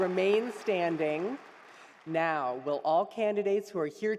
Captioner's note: applause; cheering